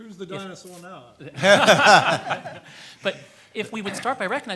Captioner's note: everyone laughs